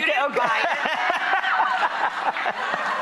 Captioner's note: laughs; audience laughs